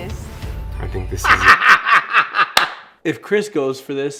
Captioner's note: laughing